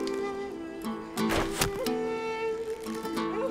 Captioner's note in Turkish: Ok fırlatma sesi